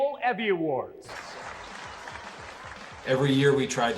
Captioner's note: audience applauding